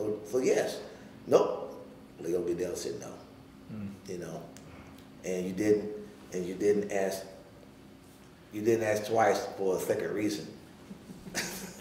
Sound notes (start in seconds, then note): 10.9 laughing